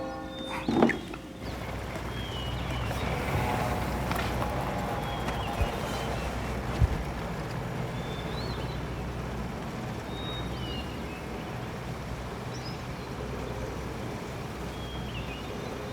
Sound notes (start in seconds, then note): 2.4 birds singing; 9.6 birds singing